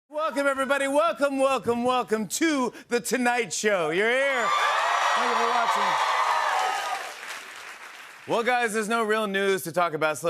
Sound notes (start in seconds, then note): 6.0 cheers and applause